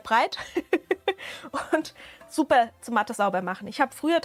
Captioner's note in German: Gelächter